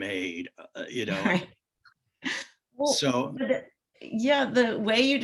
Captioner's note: laughs